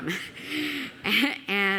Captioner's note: laughing